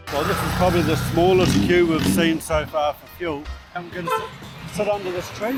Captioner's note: traffic noise; horns tooting